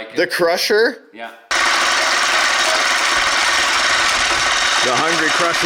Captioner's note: rocks pattering